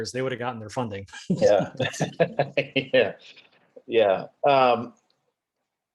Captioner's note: both laughing